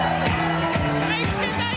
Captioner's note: cheering and Applause